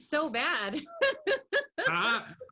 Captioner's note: laughs